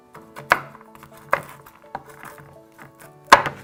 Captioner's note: chopping